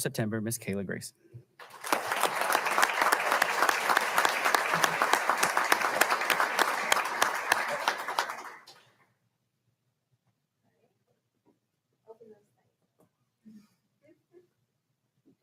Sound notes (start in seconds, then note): 1.6 audience applauding; 11.5 people chattering